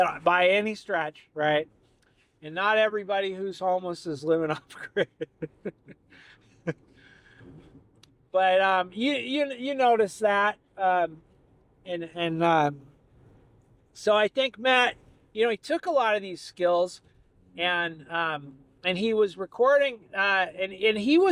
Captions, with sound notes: by any stretch, right? And not everybody who's homeless is living off grid. (laughing) But you notice that. So I think Matt, he took a lot of these skills and he was recording and he